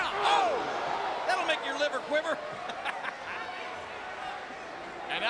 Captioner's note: laughing